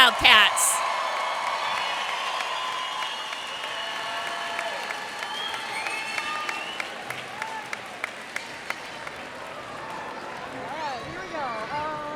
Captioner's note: cheers and applause